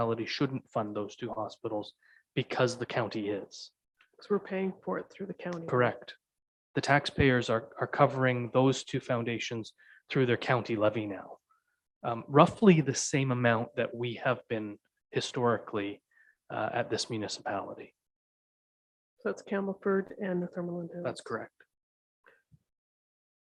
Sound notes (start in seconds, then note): 20.4 speaks faintly